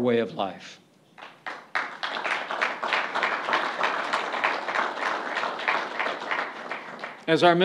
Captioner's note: applause